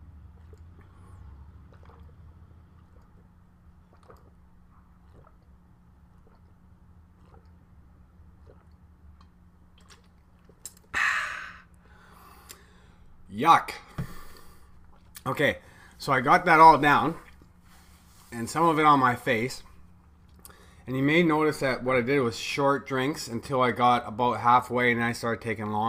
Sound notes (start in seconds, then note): 0.2 pause